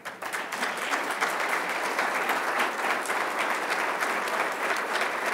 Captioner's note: applause